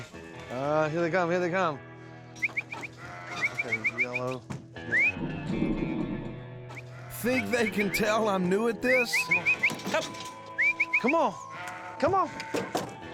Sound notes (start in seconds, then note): 1.8 whistling; 8.8 whistling